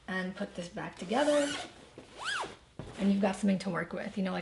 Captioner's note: zipper zips